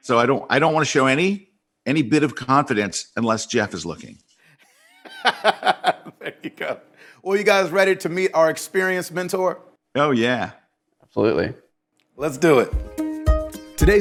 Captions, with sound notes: So I don't wanna show any bit of confidence unless Jeff is looking. - (laughs) There you go. Well, you guys ready to meet our experienced mentor? - Oh yeah. - Absolutely. - Let's do it. (lighthearted music)